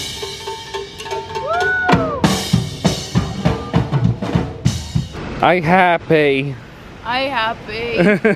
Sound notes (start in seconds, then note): 1.3 guest cheering